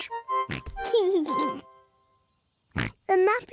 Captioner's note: oinks and giggles; oinks